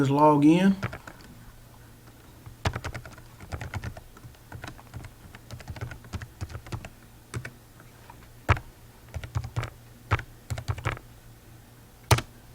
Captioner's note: keyboard Typing